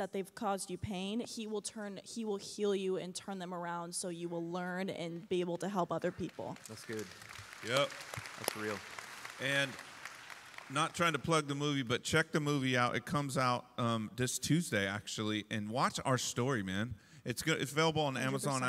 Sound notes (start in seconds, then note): 6.1 applause